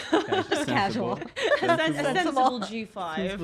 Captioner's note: laughs